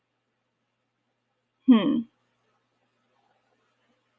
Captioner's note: sighs